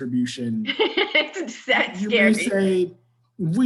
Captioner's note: laughs